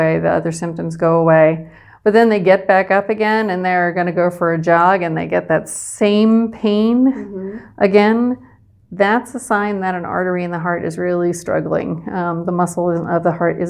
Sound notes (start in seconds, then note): 7.1 humming